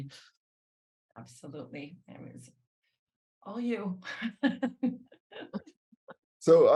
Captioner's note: laughs